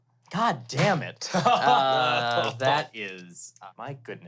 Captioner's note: laughs